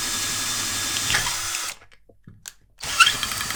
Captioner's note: safe drilling noises